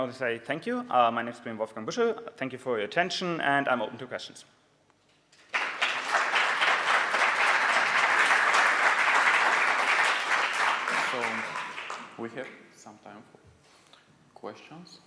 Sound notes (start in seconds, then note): 5.3 applause